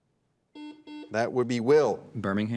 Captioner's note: buzzer dings